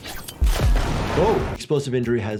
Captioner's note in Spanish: explosión